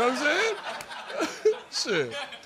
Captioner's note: laughter